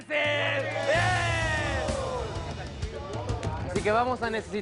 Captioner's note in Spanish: Aclamaciones